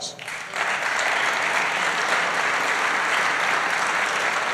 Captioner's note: applause